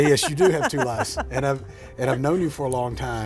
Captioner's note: laughing